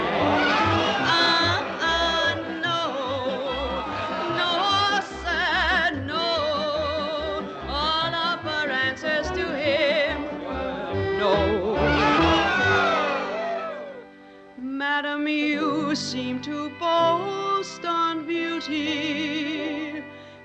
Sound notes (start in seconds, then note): 11.7 cheering; 12.9 tempo slows